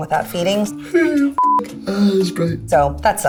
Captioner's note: yawning